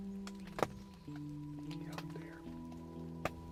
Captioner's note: twigs snapping